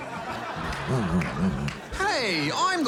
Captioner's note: laughter; grumbles